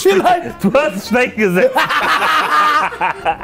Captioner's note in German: Lautes Lachen